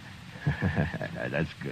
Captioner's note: laughing